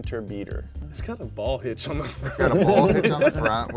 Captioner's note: chuckles